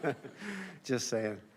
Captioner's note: laughter